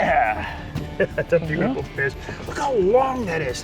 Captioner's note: laughs